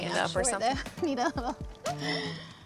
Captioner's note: chuckling